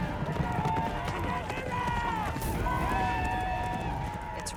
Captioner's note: men yelling , whooping